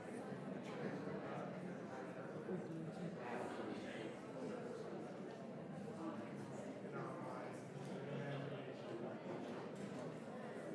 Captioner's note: audience chatter